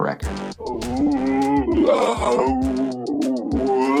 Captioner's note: vocalizes